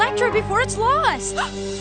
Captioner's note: gasp